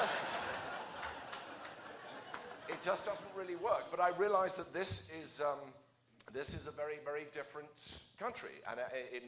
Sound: laughter

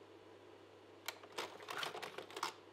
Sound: slide projector clicks

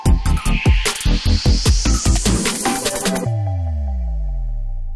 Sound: loud whoosh

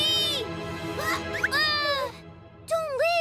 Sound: Pinkfong yells

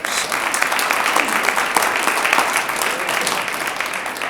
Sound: audience applauds

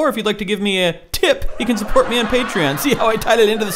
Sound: laugh track

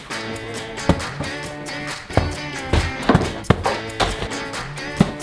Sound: diapers thud on the ground

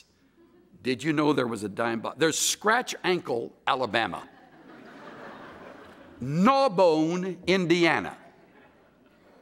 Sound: laughter

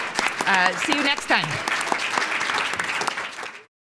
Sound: audience applauding

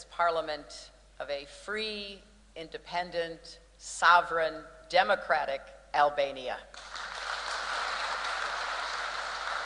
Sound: applause

